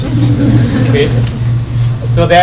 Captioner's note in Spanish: Risas